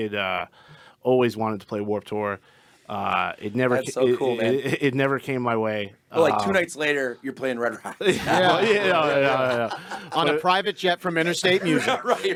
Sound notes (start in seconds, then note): 7.7 group laughing and chattering